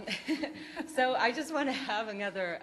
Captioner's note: laughs